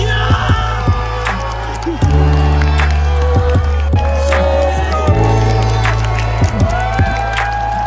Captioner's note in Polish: Aplauz